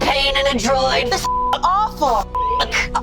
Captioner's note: beep